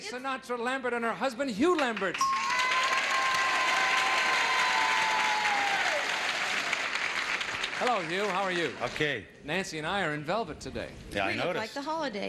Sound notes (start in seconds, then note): 2.0 audience applauding